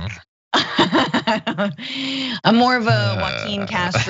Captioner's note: laugh